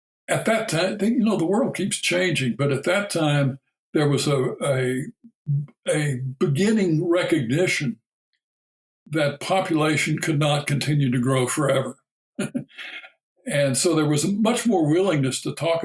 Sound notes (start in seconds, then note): 12.4 chuckle